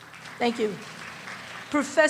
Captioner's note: small applause